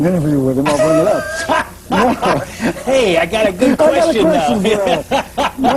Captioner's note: laughing